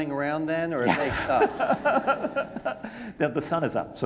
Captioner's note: audience laughing